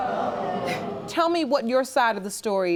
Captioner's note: chuckles